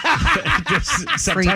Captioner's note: laughing